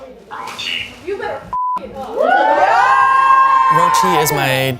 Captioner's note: whooping, cheering